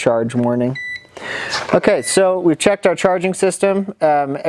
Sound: voltage meter beeps

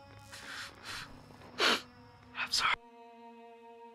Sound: sniffles

